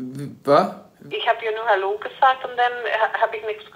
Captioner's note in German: Mutter